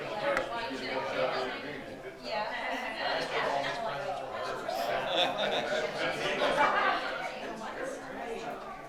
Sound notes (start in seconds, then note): 0.0 attendees chatter